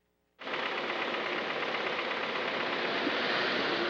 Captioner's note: engine running